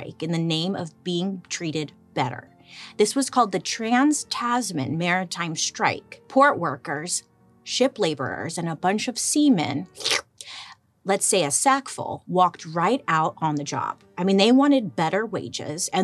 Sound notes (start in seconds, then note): 10.0 gulps